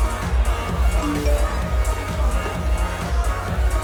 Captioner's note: phone chimes